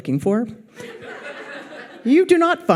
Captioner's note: audience laughs